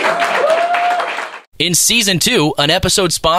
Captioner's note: applause